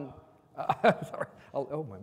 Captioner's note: chuckles